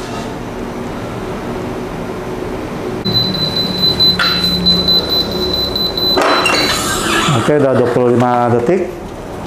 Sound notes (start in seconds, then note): 3.0 beeping sound; 5.8 press machine sound